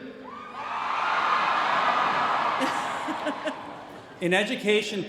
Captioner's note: cheering